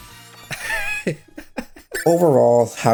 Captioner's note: laughs